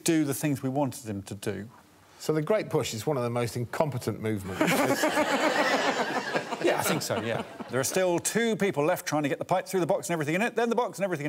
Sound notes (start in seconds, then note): 6.2 all laughing